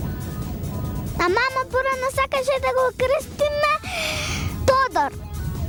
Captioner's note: big inhale